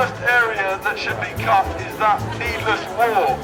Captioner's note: loudspeaker